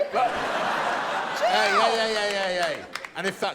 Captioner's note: laughter; laughter